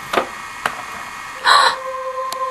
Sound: gasps

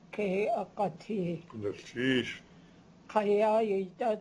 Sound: non-english speech

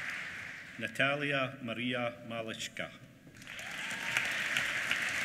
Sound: applause

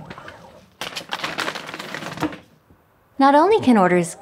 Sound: paper bag rustling

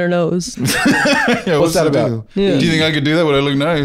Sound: laughs

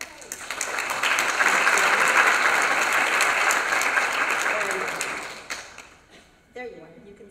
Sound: applause

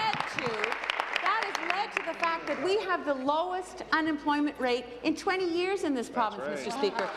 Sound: applause

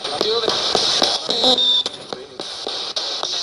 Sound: radio babbles

